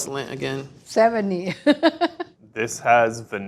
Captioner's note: laughs